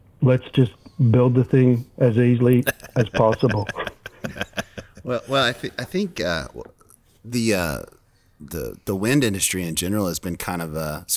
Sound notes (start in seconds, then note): 2.6 laughs